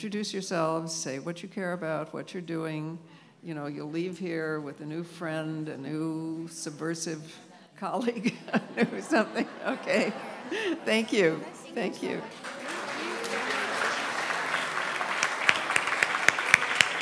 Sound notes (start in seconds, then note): 14.3 applause